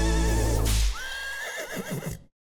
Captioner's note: whip cracks; horse whinnies